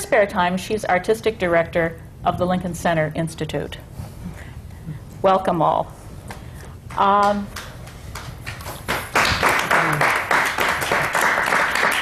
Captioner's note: applause